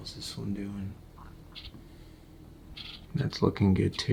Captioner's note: rustling